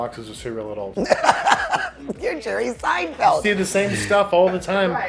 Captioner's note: laughs